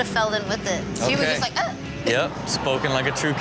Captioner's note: exclaims